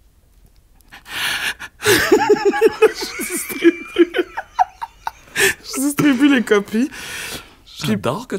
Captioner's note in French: éclat de rire